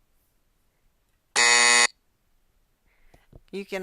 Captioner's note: game buzzer